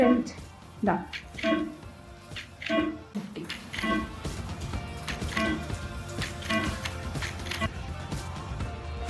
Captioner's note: machine beeping